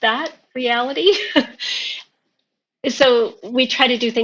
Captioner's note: laughing